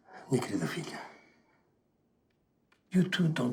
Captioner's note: speaking in Portuguese